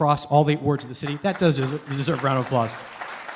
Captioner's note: applause